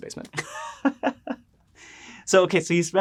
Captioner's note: laughs